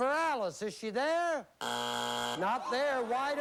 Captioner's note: buzzer